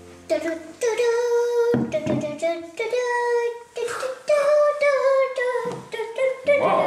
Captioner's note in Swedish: nynnar en liten trudelutt